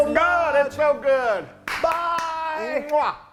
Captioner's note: applause